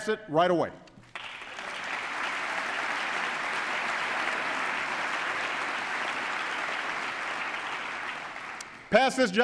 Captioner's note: applause